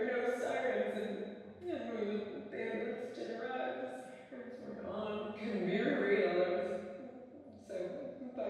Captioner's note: sobbing